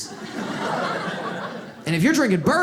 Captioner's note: audience laughs